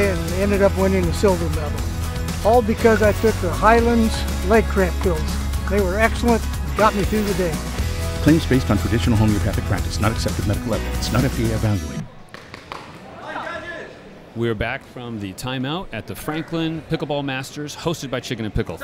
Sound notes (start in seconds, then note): 12.7 chattering